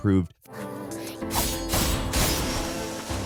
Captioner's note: sword slashing; somber piano music